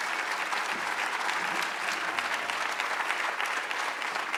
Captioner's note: applause